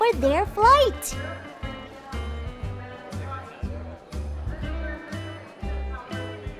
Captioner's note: airport intercom echoing; crowds murmuring